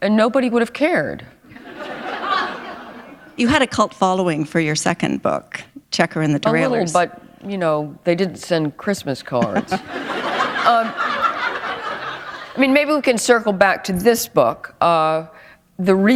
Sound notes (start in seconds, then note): 1.5 laughter; 9.3 laughter